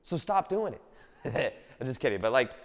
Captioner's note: laughs